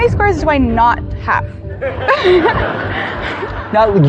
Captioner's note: scattered laughter